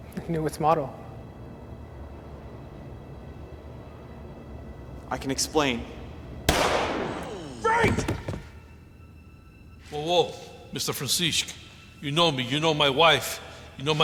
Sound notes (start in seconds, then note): 1.4 suspenseful music continues; 6.5 gun firing